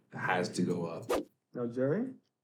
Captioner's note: air whooshing